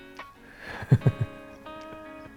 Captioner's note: laughs